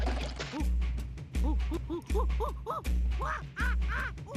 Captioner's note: gibbering